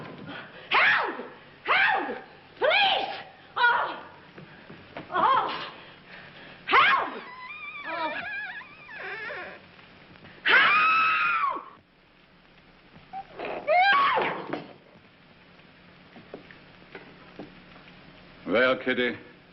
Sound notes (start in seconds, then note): 7.1 door creaking